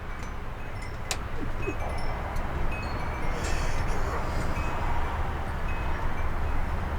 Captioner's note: high pitched cries